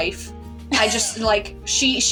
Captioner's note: wheeze Laugh